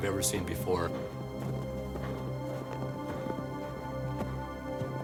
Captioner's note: footsteps